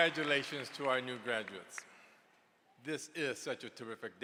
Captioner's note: cheers and applause